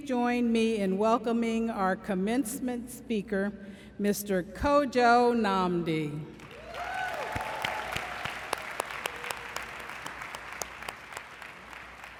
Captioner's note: applause